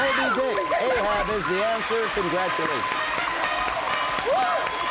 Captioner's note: cheering